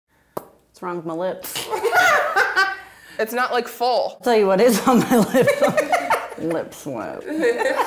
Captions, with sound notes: - (smacking lips) What's wrong with my lips? (laughing) - It's not like, full. - I'll tell you what is on my lips, lip sweat.